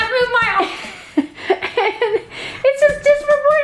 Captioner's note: both laughing